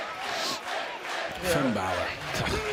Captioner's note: fans chanting